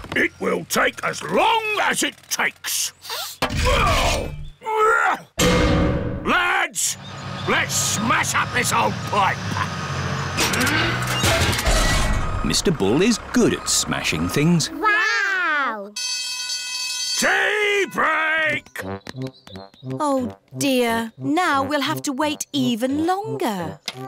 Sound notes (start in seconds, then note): 3.3 grunting; 15.9 alarm ringing